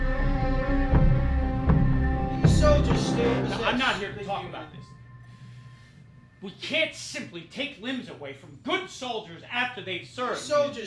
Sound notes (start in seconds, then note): 3.4 shouting